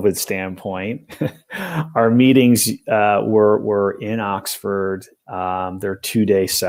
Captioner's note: laughter